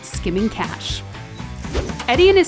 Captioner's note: cash whooshes